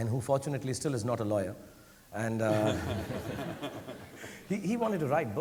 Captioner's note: audience laughing